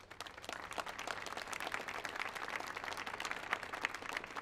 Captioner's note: audience applauds